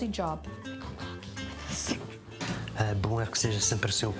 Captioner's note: whispers